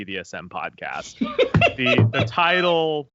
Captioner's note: laughs